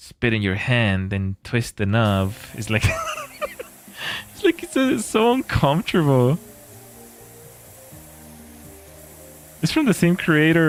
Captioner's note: laughter